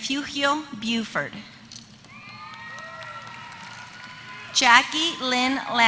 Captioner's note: applause